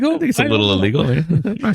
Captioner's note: uh